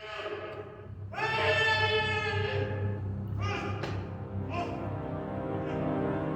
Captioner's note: screaming